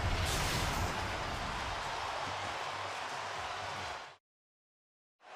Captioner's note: swoosh